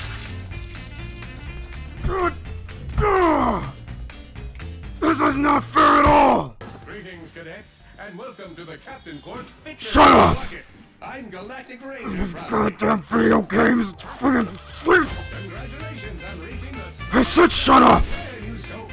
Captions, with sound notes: [Banging and angry grunting] THIS IS NOT FAIR AT ALL!!! SHUT UP. [Frustrated mumbling] I SAID SHUT UP!